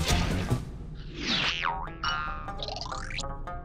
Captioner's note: boing